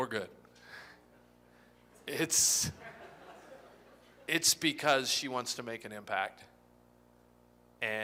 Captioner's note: laughter